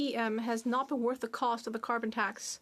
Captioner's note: speaking French